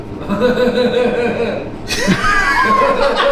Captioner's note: laugh